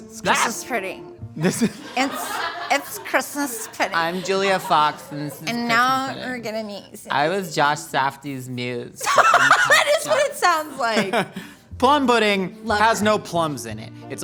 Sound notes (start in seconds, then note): 9.0 laughing